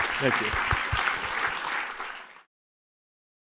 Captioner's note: applause